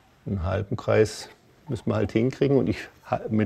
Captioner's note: none